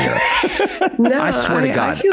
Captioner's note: Rob and Meg laugh